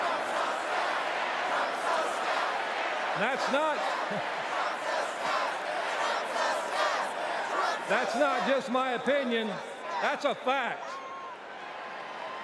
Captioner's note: audience chanting